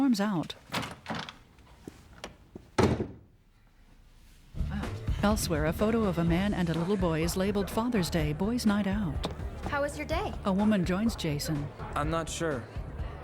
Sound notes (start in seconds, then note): 2.7 door Slams